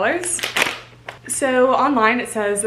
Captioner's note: bag opening